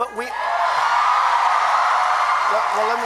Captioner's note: applause